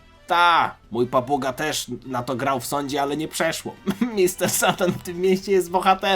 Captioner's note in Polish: śmiech